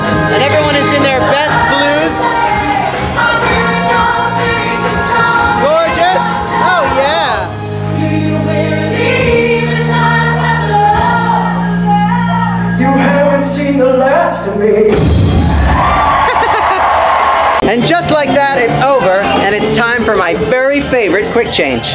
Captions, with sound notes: And everyone is in their best blues! Gorgeous! Oh, yeah! [applause] [cheers] --And just like that it's over, and it's time for my very favorite quick change!